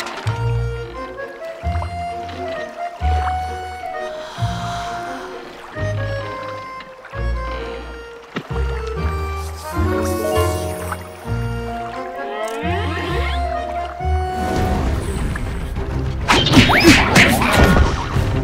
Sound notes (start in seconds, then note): 4.2 long gasp; 14.0 battle music; 16.2 fighting sounds